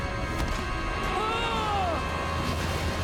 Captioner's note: screaming